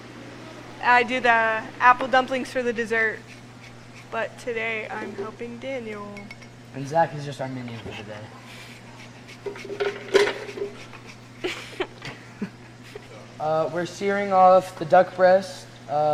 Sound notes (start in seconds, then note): 6.1 glass clinking; 8.5 zester grating; 9.5 object clatters